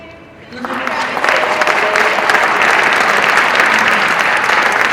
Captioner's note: audience applauds